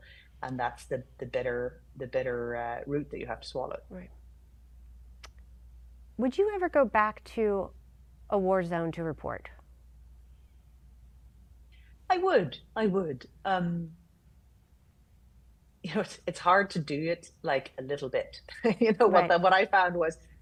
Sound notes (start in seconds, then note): 18.5 chuckles